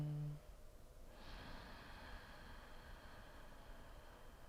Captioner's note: inhaling